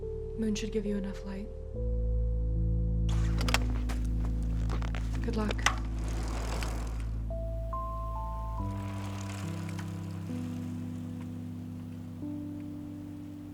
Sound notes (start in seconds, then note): 3.1 kickstand clicks; 5.7 bike rattling